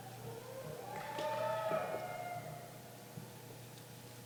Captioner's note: cheering